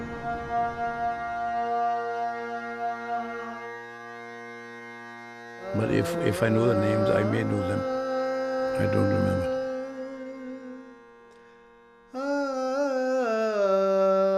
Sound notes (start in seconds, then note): 3.7 A man singing; 3.7 muffled voice